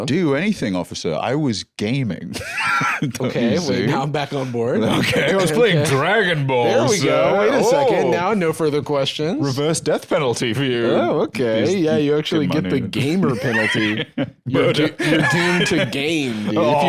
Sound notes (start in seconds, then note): 2.4 laughing